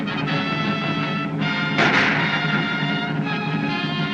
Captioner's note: gunshots Continue